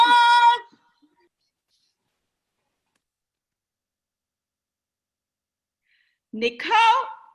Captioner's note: cheering